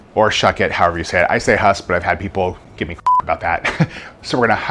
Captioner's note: beeps